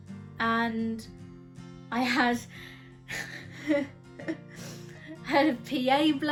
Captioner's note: laughs